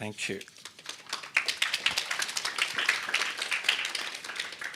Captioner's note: audience clapping